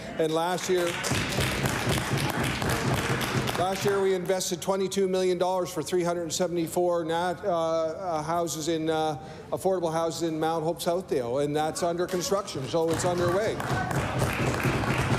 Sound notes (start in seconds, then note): 4.9 applause